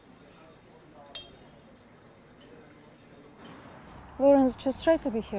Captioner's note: indistinct chatter